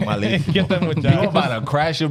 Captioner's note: speaking In Foreign Language